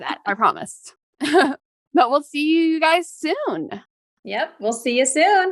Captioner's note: laughs